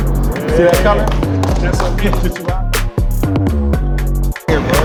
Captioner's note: spectators chattering